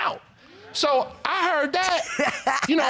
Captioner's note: laughs